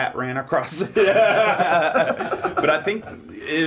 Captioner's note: Dave laughing